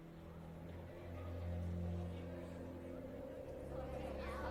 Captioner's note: tense, eerie music playing; students chattering